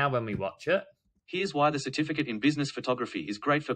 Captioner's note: voiceover